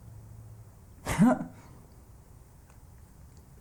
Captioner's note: grunt